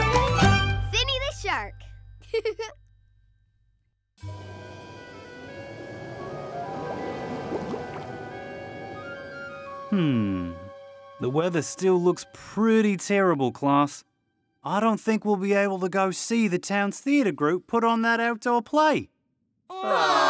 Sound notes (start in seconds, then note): 2.3 giggling; 4.8 somber music; 19.7 class groaning